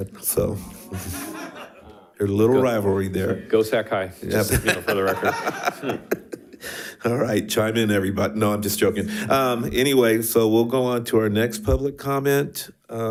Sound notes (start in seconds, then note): 0.7 attendees laughs; 4.4 members laughs; 4.5 member laughs